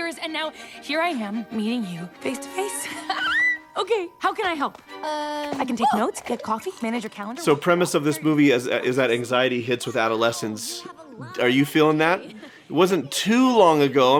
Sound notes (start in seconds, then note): 2.8 squeals